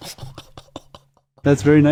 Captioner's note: awed laughter